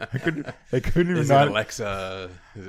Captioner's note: laughs